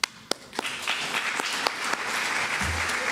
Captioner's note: applause